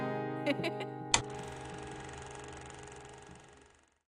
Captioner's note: laughs